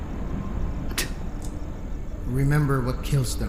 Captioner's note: spits